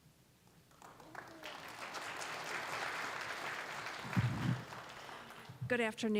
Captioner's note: applause